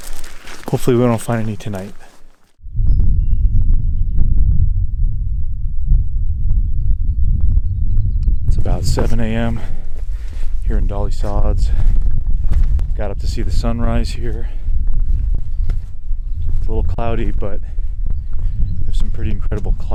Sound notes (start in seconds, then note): 3.1 birds chirping; 3.1 wind fluttering